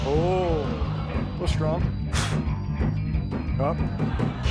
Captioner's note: spits